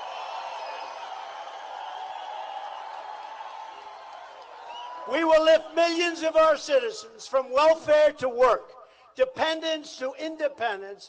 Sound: applause

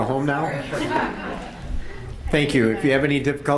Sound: audience laughs

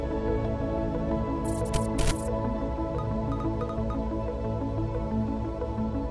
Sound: computer trilling and beeping

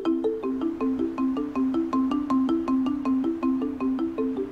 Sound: breeze whooshing

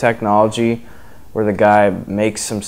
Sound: breath in

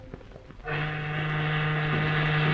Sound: boat whistle

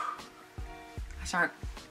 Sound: exhale

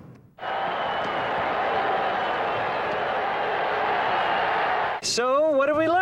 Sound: crowd cheering

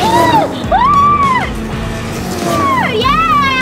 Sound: screaming

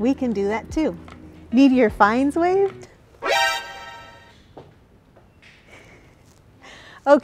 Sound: scared sound

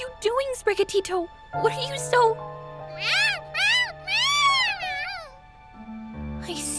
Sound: meowing

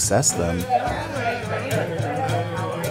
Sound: group chattering; group singing

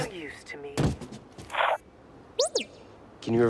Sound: comm crackles

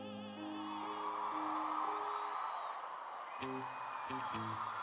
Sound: cheering

